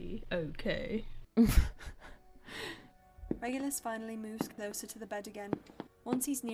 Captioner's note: Regulus scoffs and laughs